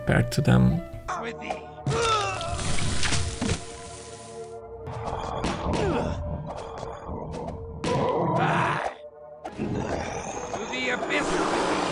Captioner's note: combat sounds